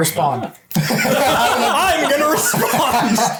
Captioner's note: laughs